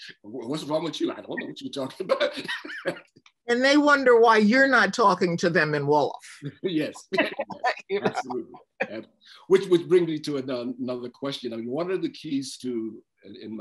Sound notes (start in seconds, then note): 1.9 laughter; 6.6 laughs